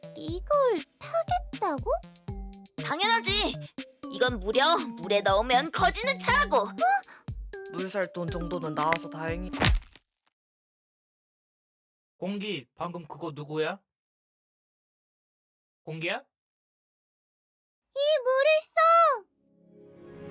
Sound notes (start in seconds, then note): 9.6 thud